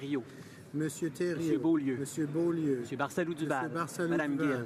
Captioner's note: speaking in french